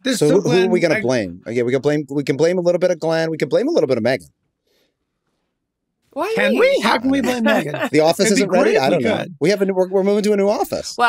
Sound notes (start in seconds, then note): 6.4 laughs